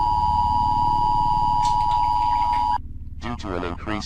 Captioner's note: TV buzzing; air quavering